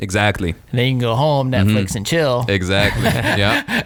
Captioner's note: laughs